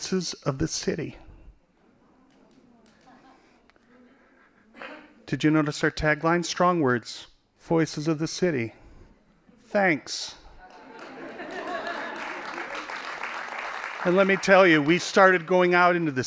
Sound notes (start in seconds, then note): 10.6 laughing; 10.7 applause